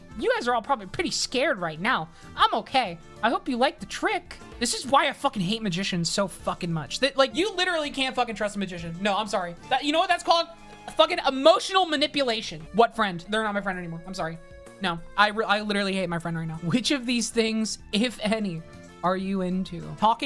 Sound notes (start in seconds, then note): none